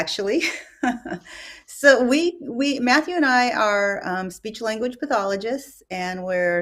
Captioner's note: laughs